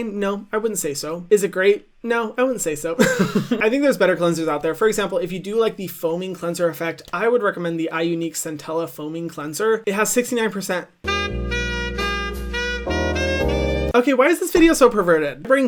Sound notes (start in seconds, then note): 3.0 laughs; 11.0 soft music